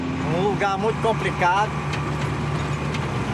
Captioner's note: Portuguese spoken audio